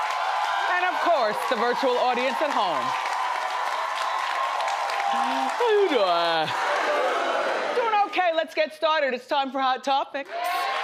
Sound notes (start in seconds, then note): 3.1 audience applauds